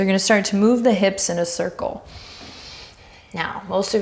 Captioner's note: deep breaths